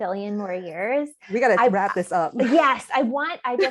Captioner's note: laughter